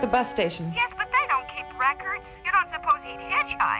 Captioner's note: on phone